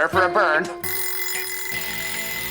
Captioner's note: alarm ringing